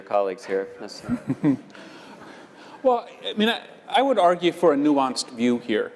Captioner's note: laugh